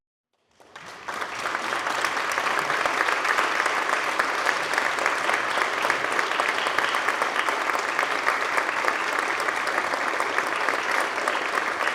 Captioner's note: applause